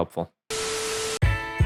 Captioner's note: static; funky music